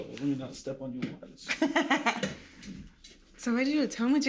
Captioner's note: laughing